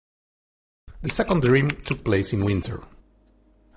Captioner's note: phone buzzing